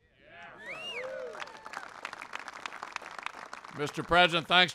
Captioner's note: applause